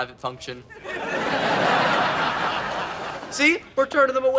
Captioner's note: audience laughs